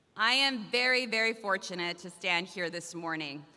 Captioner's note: none